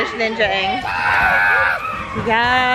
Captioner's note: screams